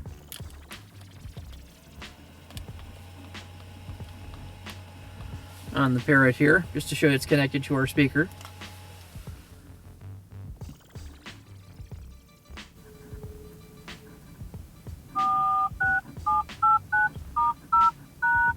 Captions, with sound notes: On the parrot here just to show it's connected to our speaker. (touch tones)